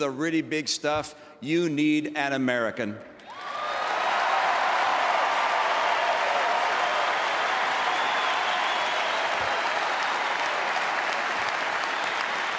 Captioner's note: applause